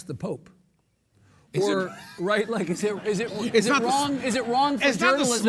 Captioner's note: laughing